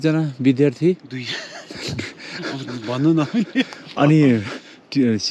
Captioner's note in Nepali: हास्य